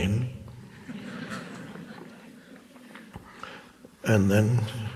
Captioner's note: audience chuckles